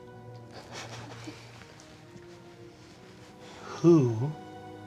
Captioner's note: cast laughing